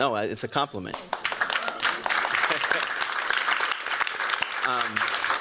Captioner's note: applause